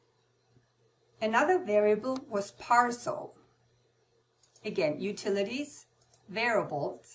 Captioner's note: click on